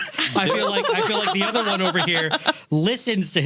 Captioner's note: laughing